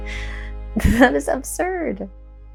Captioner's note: laughs